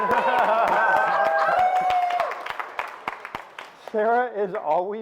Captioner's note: audience applauds